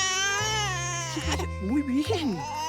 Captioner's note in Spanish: Eructo del bebé; Llanto del bebé